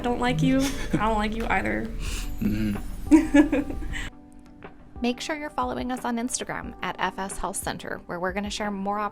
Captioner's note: laughter